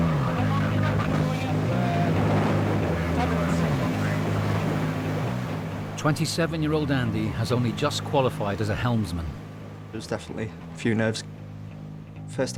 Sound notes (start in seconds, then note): 0.0 boat droning; 0.0 water whooshing; 2.8 radio vocalizing; 3.9 boat droning